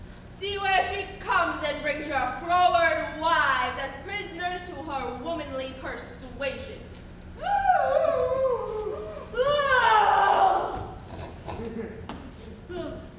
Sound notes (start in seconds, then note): 8.8 Hortensio gasps; 9.7 Tranio cries out